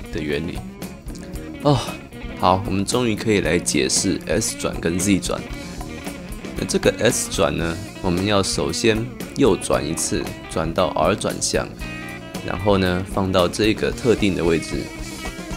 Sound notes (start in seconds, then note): 1.6 sigh